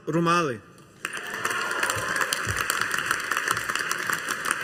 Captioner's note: audience applauding